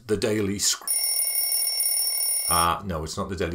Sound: alarm ringing

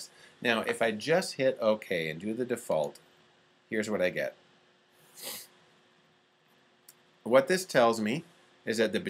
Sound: sniffs

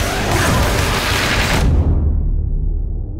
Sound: epic Heavy Metal Music; energy gun firing; shotgun blast; distant Heavy Metal Music

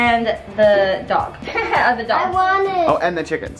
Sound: laughs

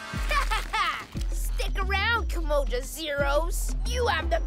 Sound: evil laugh

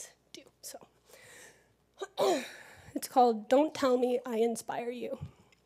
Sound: cough

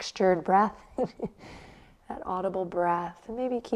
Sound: chuckles

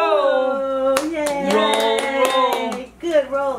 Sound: clapping

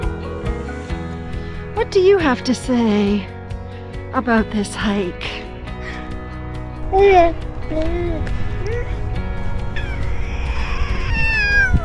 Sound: baby cooing

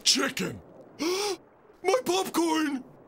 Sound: gasps

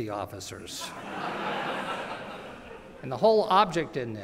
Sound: laughter

